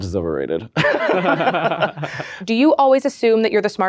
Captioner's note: both laugh